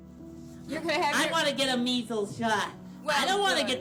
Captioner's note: soundbite of tv show, "sesame street"